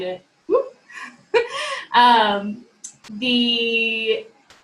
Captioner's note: chuckling